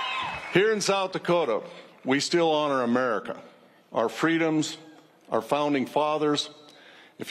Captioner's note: cheers and applause